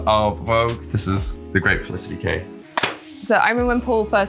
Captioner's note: slaps legs